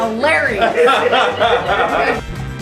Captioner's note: laughter